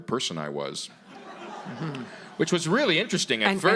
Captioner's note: audience laughing